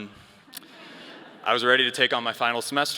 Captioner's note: all laugh